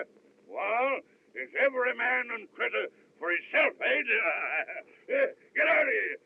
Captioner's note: chuckles